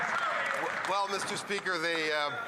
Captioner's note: some Applause